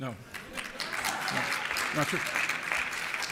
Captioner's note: applause